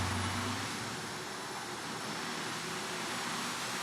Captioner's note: tires screech; vacuum whirring